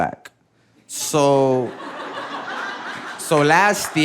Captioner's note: audience laughing